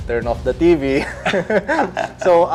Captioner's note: giggles